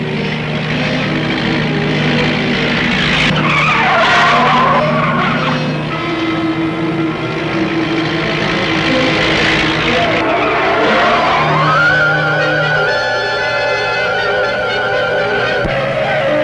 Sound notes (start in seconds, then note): 1.6 dramatic music; 3.9 tires screeching; 8.3 dramatic music; 11.5 tires screeching; 13.6 dramatic music